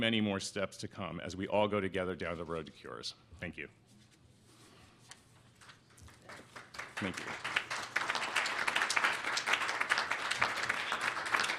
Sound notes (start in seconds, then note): 6.0 applause